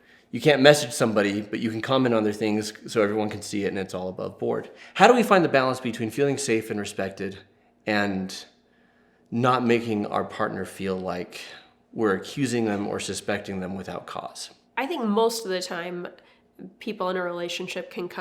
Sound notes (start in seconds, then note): none